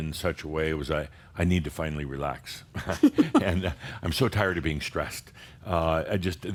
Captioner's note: giggles